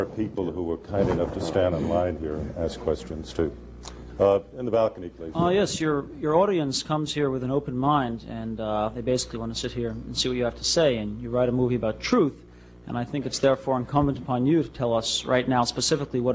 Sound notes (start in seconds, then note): none